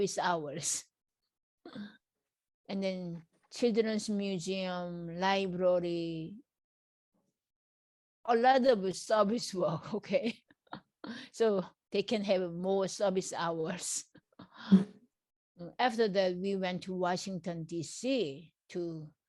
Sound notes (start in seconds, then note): 10.0 laughs